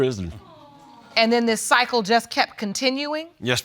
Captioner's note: audience sighs in sympathy